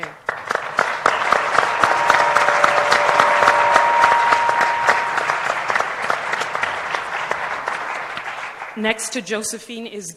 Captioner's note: applause